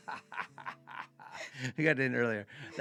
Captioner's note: laughing